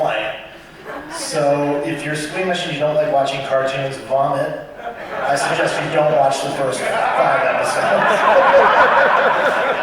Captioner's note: laughter